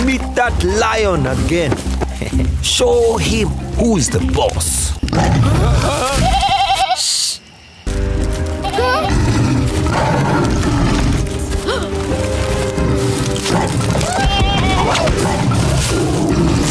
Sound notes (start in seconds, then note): 2.1 chuckling; 5.0 growling; 5.4 bleating; 6.4 all gasp; 8.9 growling; 13.5 leaves crunching; 13.9 bleating; 14.5 growling